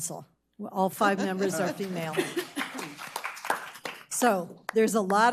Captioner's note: audience applauding